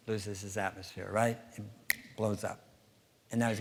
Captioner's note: snap